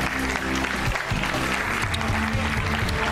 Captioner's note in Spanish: aplausos